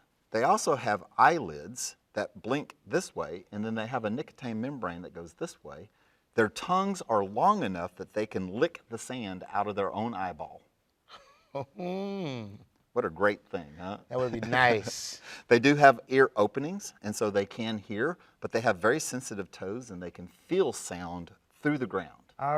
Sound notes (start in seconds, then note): 11.1 chuckles; 14.1 Mr. Bare Hands laughs